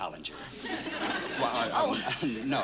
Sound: stammering

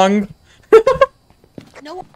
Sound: laughs

